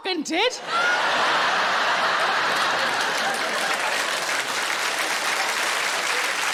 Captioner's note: audience laughing and applauding